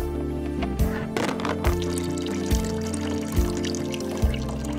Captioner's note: gas trickling